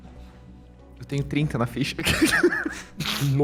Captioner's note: giggles